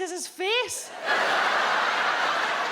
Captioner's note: audience laughs